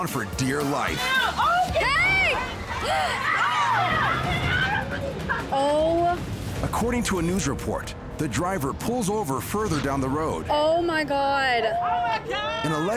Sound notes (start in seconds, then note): 2.8 gasping; 3.2 all shouting